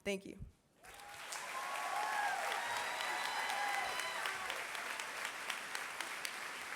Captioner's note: applause